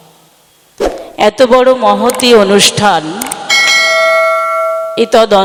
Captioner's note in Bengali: ঘণ্টা